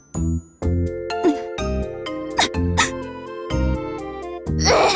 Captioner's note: sniffle